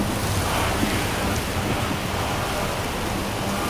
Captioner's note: chanting in foreign language